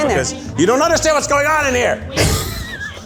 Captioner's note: laughs